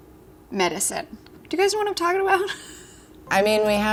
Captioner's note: laughs